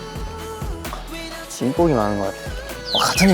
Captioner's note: muttering